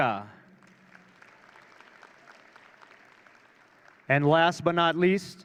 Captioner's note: audience cheering